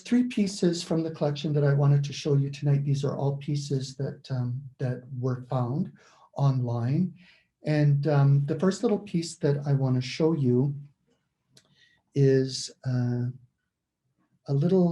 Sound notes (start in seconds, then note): none